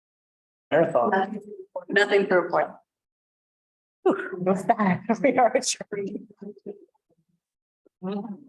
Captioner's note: multiple voices